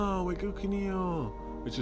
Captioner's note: speaks Korean